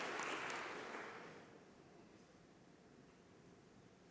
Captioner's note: applause